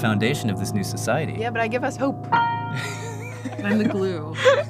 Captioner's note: laughs